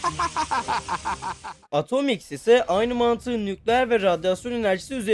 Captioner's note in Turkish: kahkaha